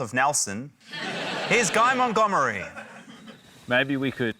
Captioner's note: laughter